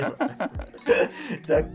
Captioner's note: laughing